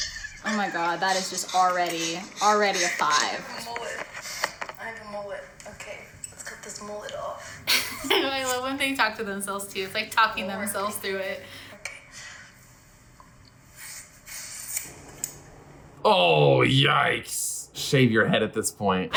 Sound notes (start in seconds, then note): 7.6 laughs